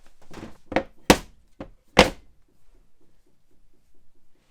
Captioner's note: blocks banging